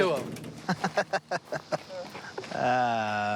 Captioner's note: laughs